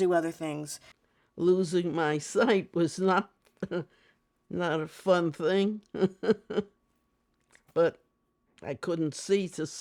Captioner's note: chuckles